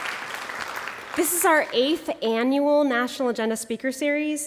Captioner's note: applause